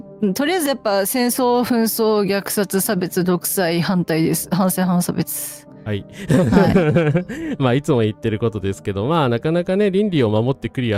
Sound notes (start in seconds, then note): 6.2 laughs